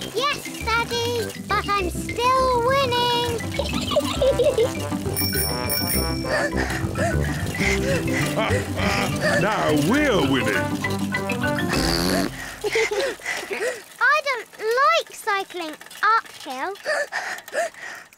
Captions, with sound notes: Yes, Daddy. But I'm still winning! (GIGGLES) (RINGS BELL AND PANTS) (CHUCKLES) Now we're winning! (BLOWS RASPBERRY AND GIGGLES) I don't like cycling uphill. (PANTING)